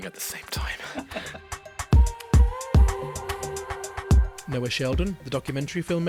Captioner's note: voiceover